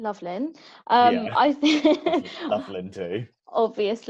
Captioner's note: laughs